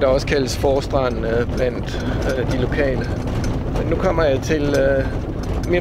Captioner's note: in Danish